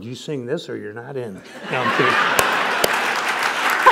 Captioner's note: laughter